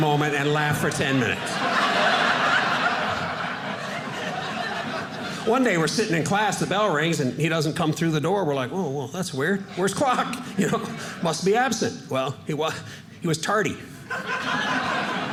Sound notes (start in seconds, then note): 1.6 audience laughing